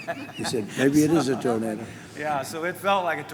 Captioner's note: laughs